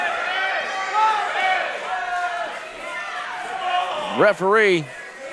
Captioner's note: crowd shouting